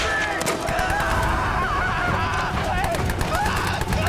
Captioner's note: screaming